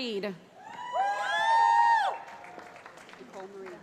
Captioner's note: cheering